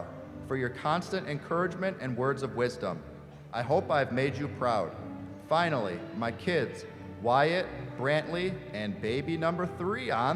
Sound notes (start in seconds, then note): none